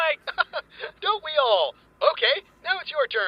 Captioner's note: laughs